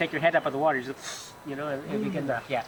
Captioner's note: exhale by nose